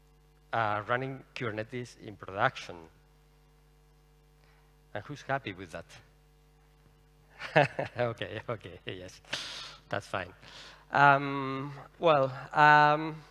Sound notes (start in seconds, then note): 7.4 laughs